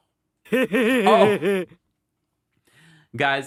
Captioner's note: laughing in background